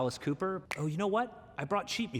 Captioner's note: snaps fingers